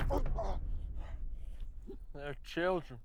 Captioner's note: Milton grunts